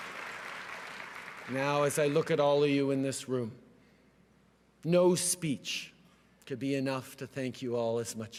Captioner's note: cheering and applause